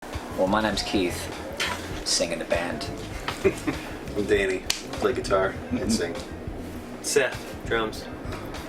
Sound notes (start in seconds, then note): 3.1 chuckles